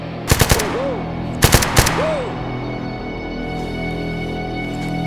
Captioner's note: gun fires; dramatic music